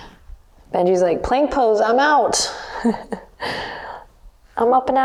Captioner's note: laughs